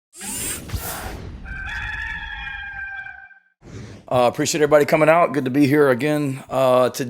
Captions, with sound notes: (rooster crowing) - Appreciate everybody coming out, good to be here again today.